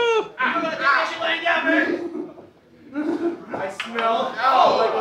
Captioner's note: shouting